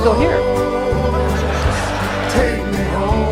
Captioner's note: audience laughing